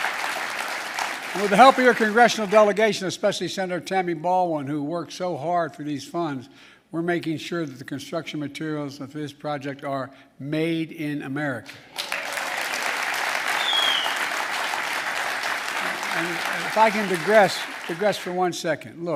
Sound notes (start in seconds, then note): 11.8 applause